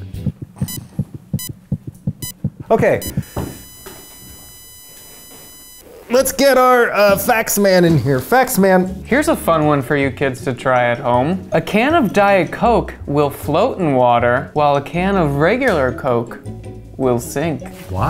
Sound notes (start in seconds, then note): 0.0 heartbeat; 0.2 beeping; 2.8 flat line